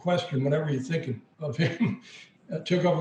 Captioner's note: chuckles